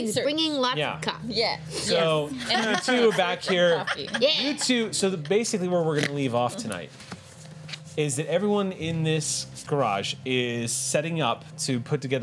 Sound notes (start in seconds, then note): 2.4 laughter